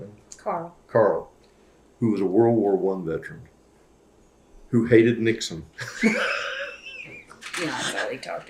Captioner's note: laughs